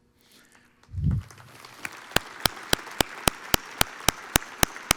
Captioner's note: audience applauds